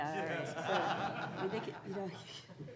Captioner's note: audience laughing; speaking faintly